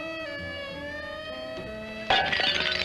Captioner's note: glass shattering